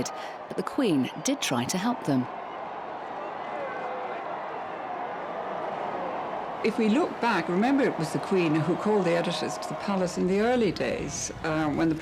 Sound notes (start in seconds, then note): 3.1 crowd cheering